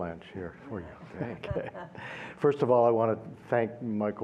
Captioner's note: laughter